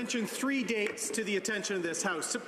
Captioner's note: applause